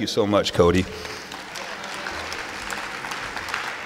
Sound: applause

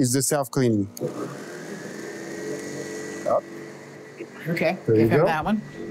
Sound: machine rumbles and whirs

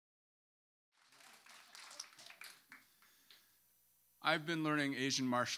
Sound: hands clap

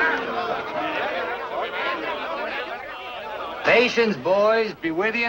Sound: crowd yelling

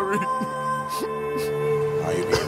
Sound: sobbing

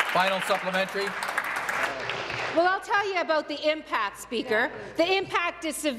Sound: applause

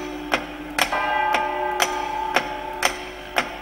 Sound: ticking and chiming

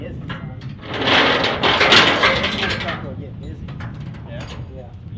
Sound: metal clanging

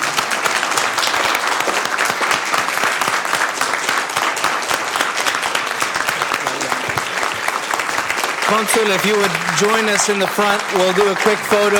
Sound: applause

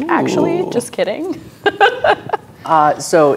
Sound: laughing

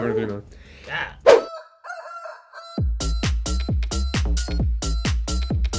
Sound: upbeat house music; rooster crowing

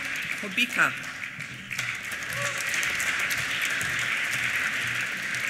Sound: applause

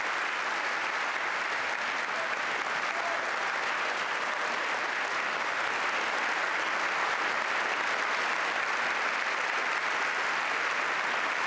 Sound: applause

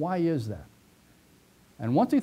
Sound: pause

